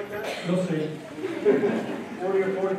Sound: laughter

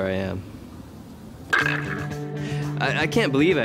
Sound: ball falling in cup

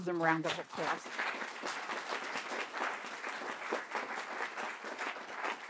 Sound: audience applauding

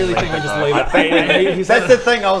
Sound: laughs

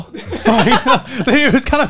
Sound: laughing

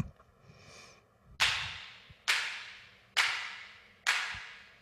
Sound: slow rhythmic clapping

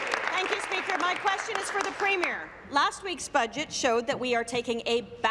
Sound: applause

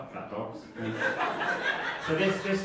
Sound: audience laughing

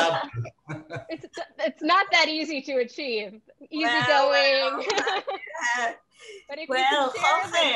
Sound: all laughing

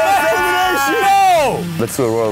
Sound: screaming drowns out everything

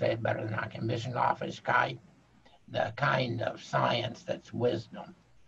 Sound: speaking foreign language

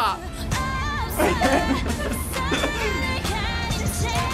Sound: laughs

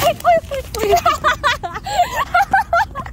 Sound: laughing the pain away

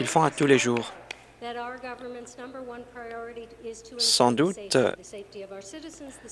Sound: applause

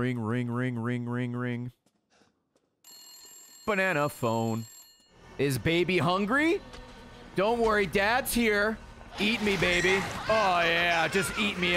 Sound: phone rings

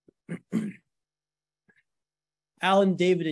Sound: cough

